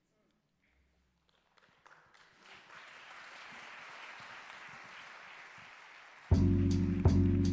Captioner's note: applause